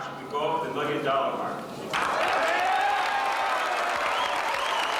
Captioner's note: cheers